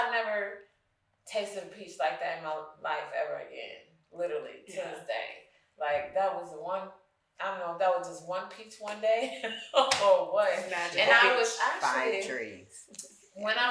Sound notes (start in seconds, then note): 9.7 chuckles